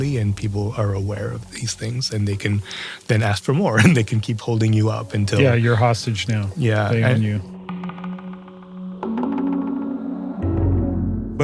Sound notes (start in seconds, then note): 3.7 laugh